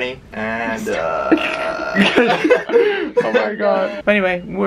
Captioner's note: lols